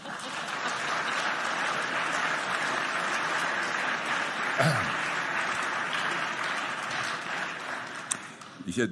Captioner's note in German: Beifall